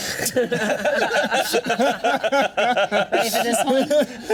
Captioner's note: all laughing